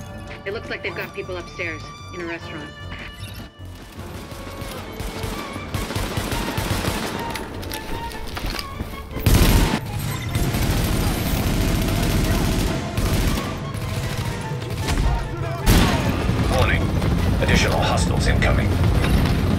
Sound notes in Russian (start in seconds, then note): 4.0 пистолетные выстрелы; 9.2 хаотичная стрельба; 10.3 автоматные выстрелы; 19.4 продолжительный автоматный огонь